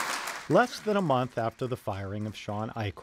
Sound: applause

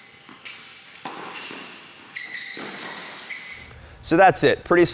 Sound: sneakers squeaking on court

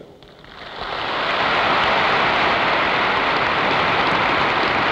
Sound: applause

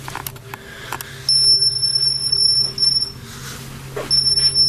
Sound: high-pitched beeping

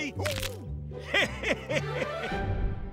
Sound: chuckles

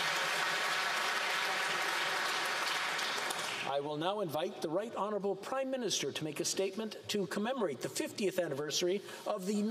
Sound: applause

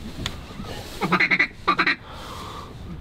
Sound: duck calling

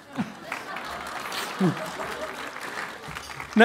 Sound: applause

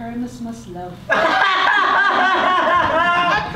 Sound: loud laughter

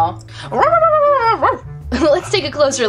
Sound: excited barking

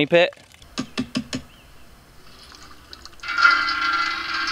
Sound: tapping; distant rumbling

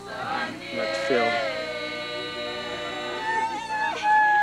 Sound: wailing and crying

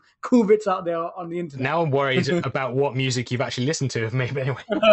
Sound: laughter

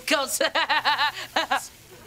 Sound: laughing

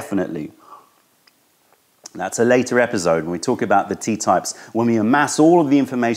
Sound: sips tea

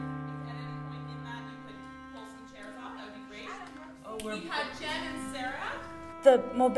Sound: background chatter

